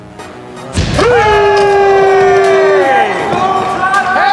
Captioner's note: cheering